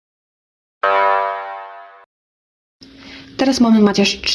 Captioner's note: Saruss elimination sound